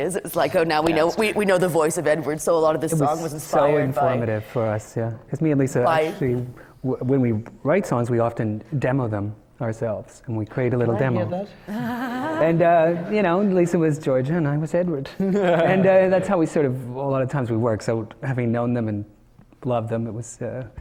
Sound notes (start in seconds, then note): 11.6 laughs; 14.8 laughter from the panel